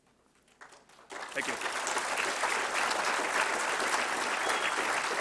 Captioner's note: applause